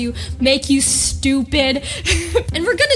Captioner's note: laughs